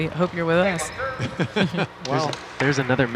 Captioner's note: laughing